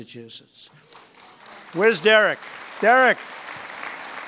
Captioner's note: applause